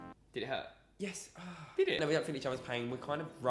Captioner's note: groans in pain